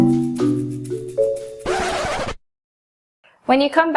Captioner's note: needle scratches on record